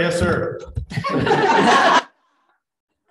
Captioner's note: chuckling